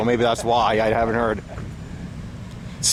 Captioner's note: laughing